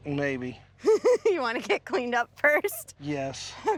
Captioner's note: laughing